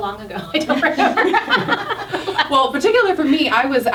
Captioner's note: all laughing